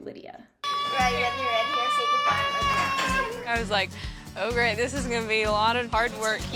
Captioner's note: little girls screaming with excitement